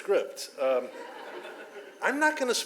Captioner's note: audience laughs